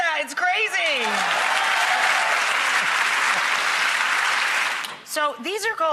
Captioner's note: audience clapping and cheering